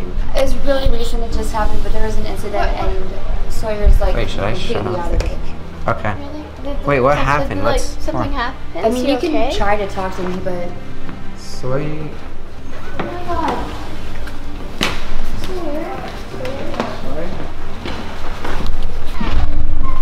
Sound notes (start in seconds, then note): 11.8 door opens; 14.6 feet thumping; 16.9 suspenseful music